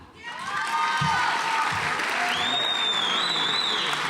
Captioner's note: audience applauds